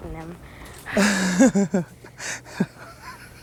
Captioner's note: laughs